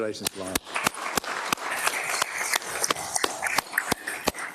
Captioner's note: applause